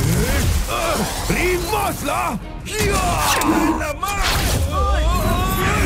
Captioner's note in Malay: menjerit